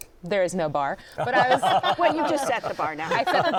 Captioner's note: laughter